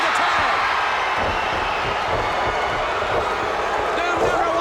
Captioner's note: audience cheers